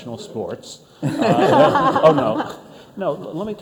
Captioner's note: everyone laughing